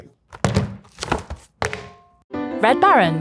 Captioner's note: pizza clanging; box clanging; cheerful music